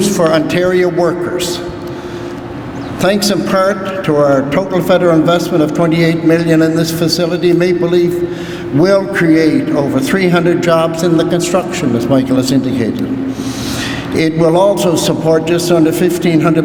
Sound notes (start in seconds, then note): none